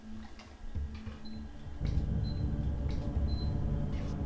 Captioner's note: A kitchen timer beeps